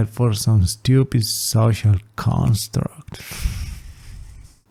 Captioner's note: exhale